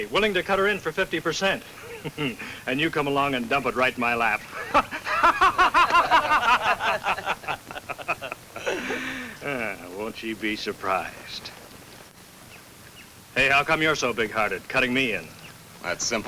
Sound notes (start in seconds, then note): 4.0 laughs